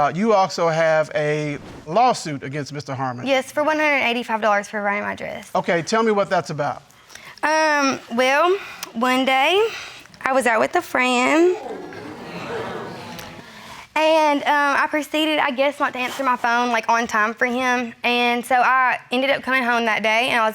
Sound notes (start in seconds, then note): 11.2 crowd gasps